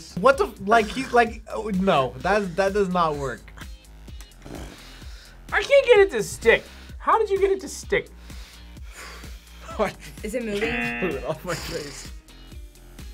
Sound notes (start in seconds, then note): 10.6 buzzer